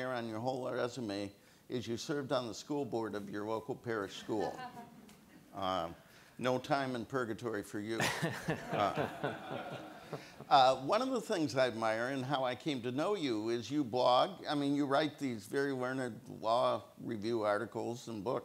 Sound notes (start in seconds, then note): 4.2 audience laughs; 7.9 laughs; 8.0 audience laughs